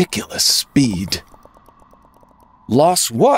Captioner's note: sound of fast gazelle